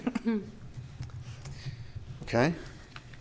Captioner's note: laughter